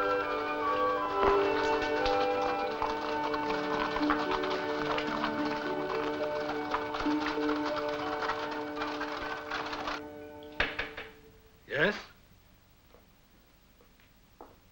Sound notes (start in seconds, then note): 1.1 rock clattering; 10.6 door knocking